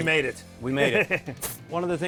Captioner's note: chuckling